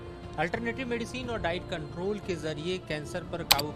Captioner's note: reporter in Hindi